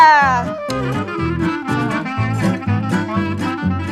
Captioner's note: whoopee~